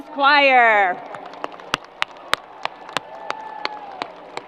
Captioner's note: crowd applause